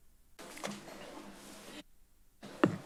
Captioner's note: rustles